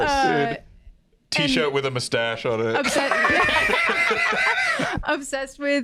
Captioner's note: all laughing